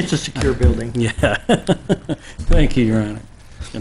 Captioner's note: laughing